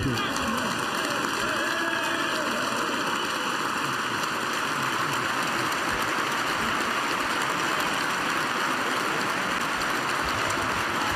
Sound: applause

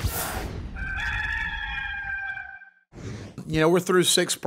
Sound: rooster crowing

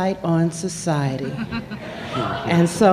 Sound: laughter

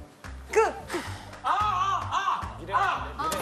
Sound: inhale; exhale

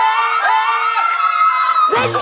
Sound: cheering

